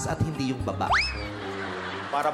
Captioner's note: crowd laughing